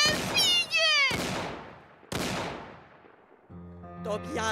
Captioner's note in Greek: Ακούγονται φτερουγίσματα και πυροβολισμοί. Και μετά σιωπή